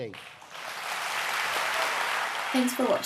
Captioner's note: applaus